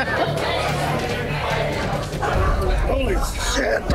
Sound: laughs; bar bustling; suspenseful music continues

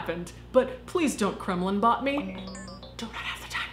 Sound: robotic beeping

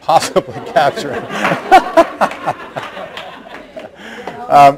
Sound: laughs and laughter

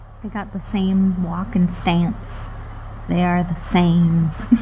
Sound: laughter

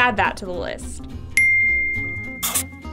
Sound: ding!

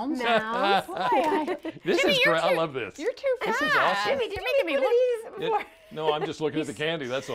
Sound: laughter

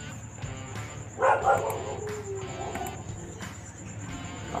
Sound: barking Dog

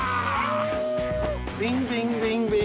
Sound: grands cris

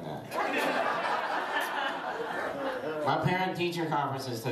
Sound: laughter

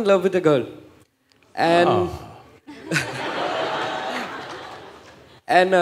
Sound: laughter

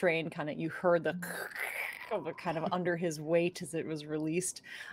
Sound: screeching

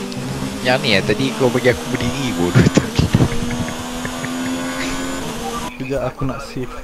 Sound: laughs

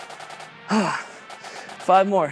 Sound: exhaling deeply

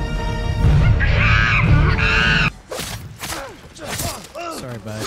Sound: tense music; monkey screeching

